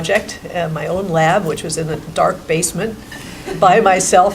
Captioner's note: laughing